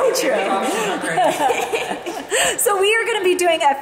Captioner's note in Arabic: تضحك المجموعة